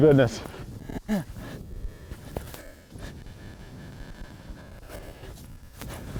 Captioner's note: heavy breathing